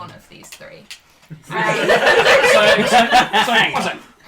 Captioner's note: laughter